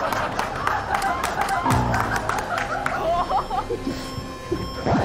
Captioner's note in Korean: 에그머니나